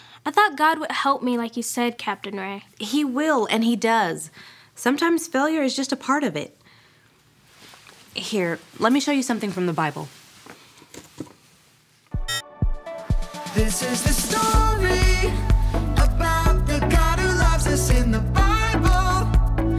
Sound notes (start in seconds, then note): 12.2 beep; 13.8 upbeat music